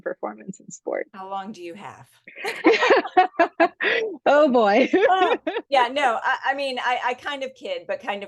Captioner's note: laughing